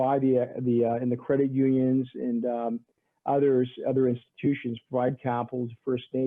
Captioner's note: stammering